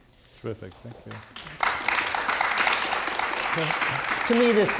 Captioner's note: audience applauding